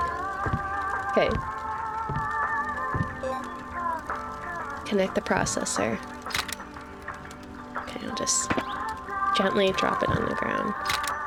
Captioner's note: laughs